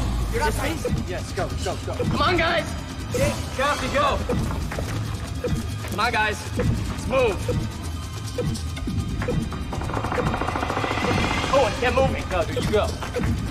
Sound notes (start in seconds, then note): 9.6 centipede growls